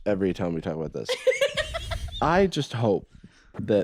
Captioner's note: laughs